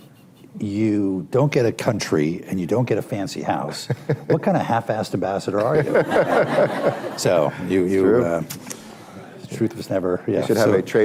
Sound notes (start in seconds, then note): 5.6 laughter